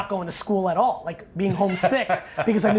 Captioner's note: Brian laughs